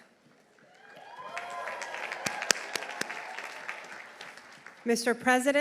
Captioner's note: audience applauding; audience cheering